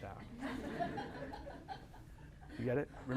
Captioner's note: laughter